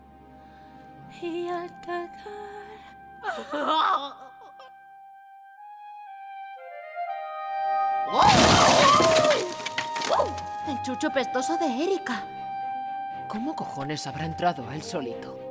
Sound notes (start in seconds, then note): 3.3 cries; 8.1 wood breaks; 8.2 Wolfie howls